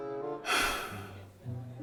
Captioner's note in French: Soupir